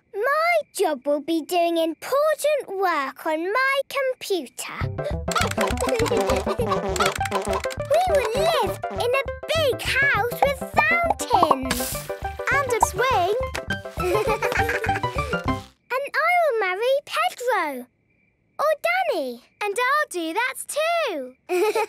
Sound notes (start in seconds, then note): 5.1 computer game chickens clucking; 5.2 keyboard tapping